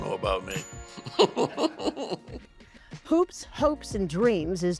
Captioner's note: laughs